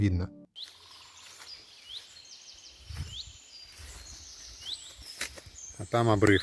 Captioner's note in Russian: пение птиц